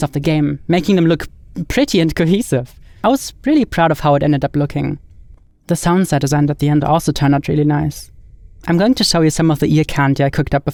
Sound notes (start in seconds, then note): none